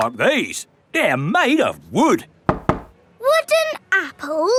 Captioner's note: knocks